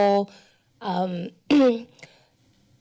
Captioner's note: clears throat